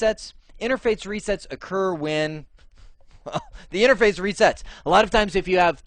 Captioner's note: laughing